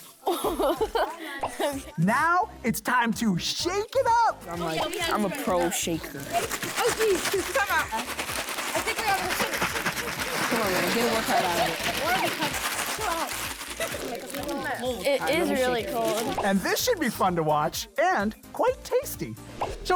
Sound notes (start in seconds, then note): 0.2 kids laughing; 6.7 ingredients crackling